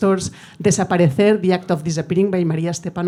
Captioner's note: speaking in foreign language